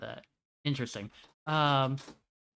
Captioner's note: rustling in background